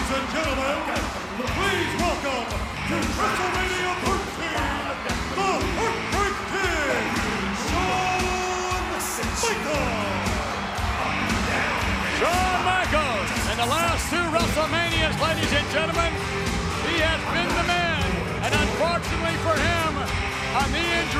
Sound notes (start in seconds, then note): 10.6 audience cheers